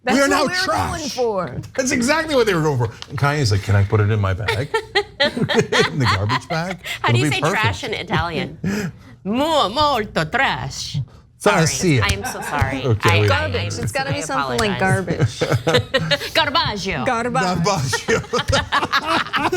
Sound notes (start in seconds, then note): 4.5 laugh; 17.4 laugh